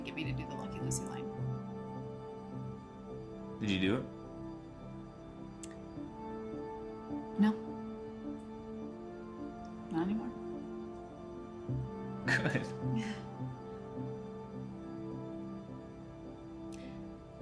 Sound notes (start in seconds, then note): 12.2 both chuckle; 13.9 gentle wistful music